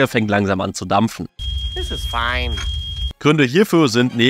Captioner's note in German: Hektisches Piepsen